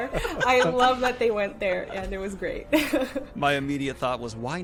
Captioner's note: laughs